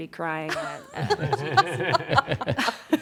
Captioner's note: laughter